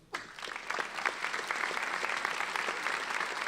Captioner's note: applauding